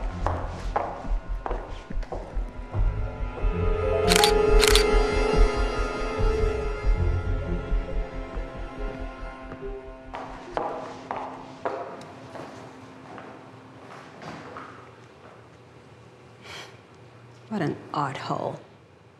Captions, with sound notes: (camera shutters) (suspenseful music) What an arthole.